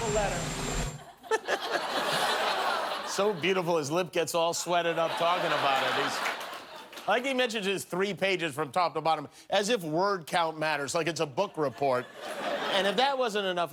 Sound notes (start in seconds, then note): 8.6 laughter